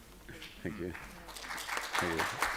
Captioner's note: applause